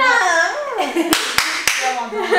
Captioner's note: excitedly verbalizing; laughs; clapping